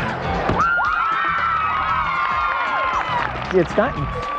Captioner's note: cheers and applause